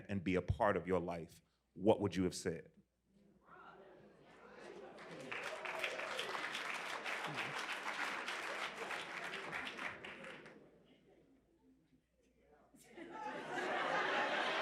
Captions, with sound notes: and be a part of your life, what would you have said? [Applause]